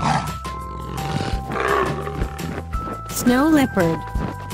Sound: leopard sound

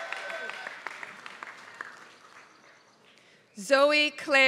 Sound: applause

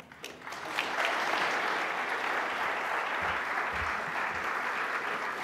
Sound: audience applauding

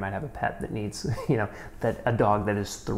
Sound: chuckles

